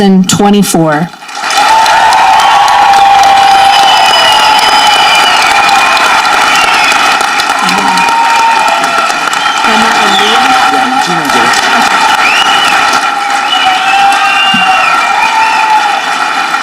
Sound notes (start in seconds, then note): 1.7 audience cheering; 7.0 audience clapping; 9.9 faculty speaking faintly